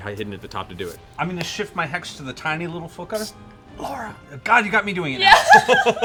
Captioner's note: Irish accent